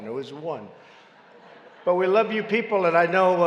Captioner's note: laughter